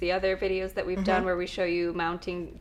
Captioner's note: hums in agreement